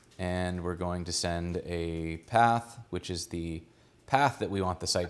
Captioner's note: none